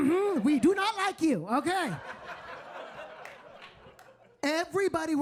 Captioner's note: audience laughing